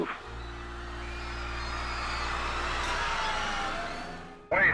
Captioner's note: crowd yelling; static swooshes